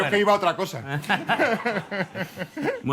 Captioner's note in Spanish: Risas